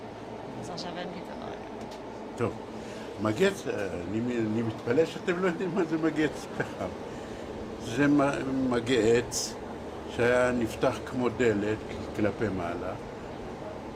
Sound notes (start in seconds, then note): 0.5 talking in background